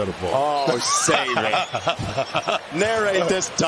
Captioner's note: laughter